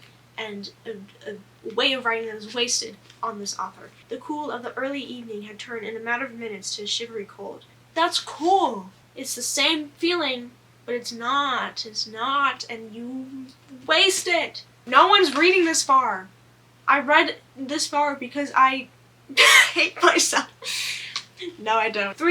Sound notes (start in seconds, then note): 20.6 laughs